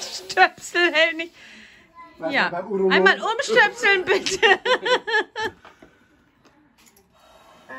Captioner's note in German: lacht